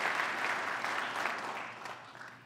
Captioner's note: applause